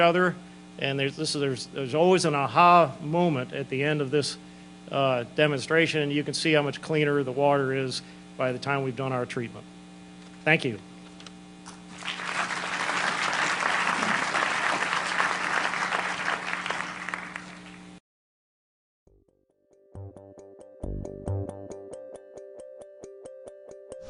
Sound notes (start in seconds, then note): 11.9 applause